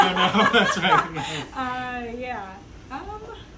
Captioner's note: laughing